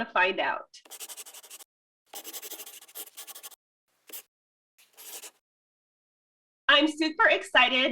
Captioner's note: the sounds of a pen scratching. LOGO